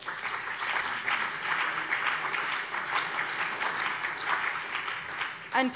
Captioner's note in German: Beifall BÜNDNIS 90/DIE GRÜNEN und vereinzelt CDU